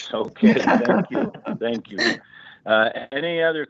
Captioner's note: laughter